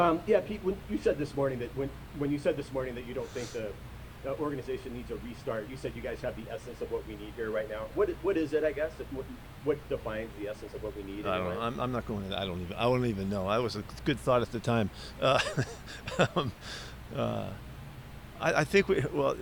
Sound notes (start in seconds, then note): 15.1 laughs